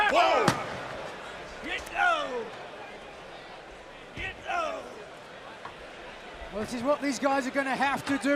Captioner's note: crowd chatter